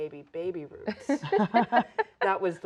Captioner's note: laughing